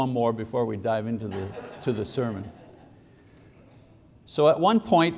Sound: congregation laughing

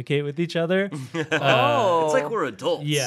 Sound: chuckling

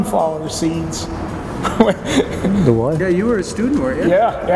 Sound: laughs

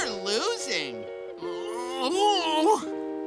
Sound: groaning

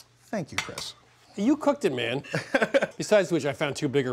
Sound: laughs

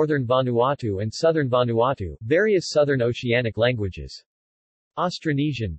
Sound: various Southern Oceanic languages

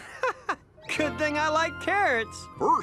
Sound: laughs

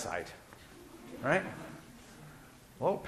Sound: class laughing

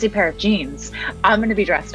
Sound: laughs

